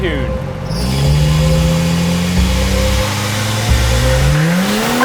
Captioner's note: truck engine roaring